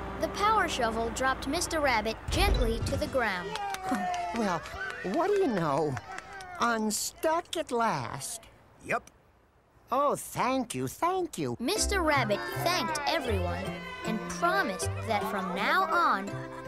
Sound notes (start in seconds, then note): 3.4 cheers and applause